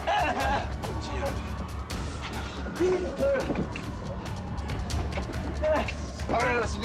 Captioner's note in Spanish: Sollozos